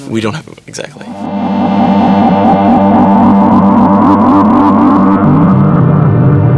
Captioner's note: electric whirring